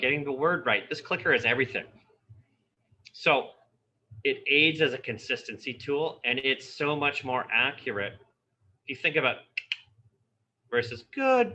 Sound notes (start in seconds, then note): 9.6 imitates clicking